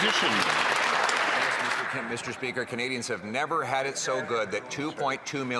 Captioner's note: cheering and Applause